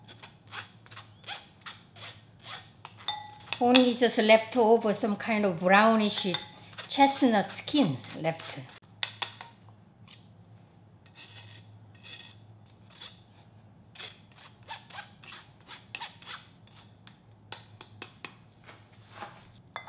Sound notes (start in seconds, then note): 0.2 metal creaking; 8.9 spoon thudding; 11.9 metal scratching; 17.4 spoon thudding; 19.8 dish clinking